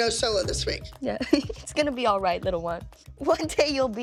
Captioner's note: chuckles